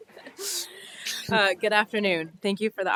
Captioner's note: laughter